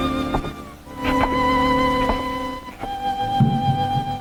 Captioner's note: footsteps tapping; drum beating